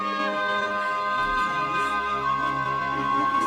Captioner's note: giggling